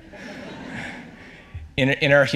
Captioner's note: audience laughs